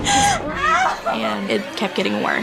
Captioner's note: sobs